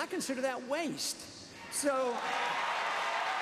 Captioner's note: applause